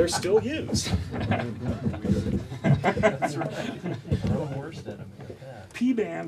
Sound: laughter

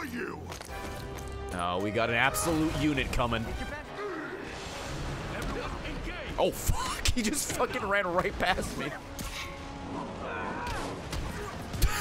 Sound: laughs

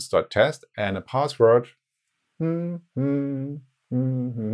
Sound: humming

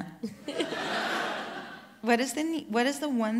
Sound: audience laughter

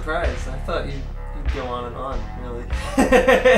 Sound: laughs

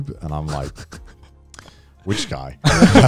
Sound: chuckling

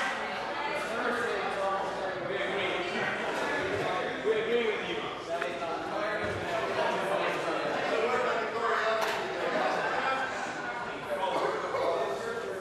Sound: conversation din

